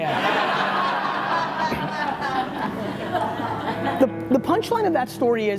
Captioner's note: laughter